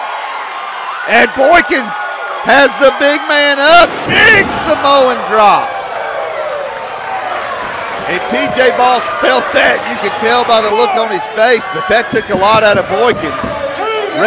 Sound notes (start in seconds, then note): 6.8 crowd applauding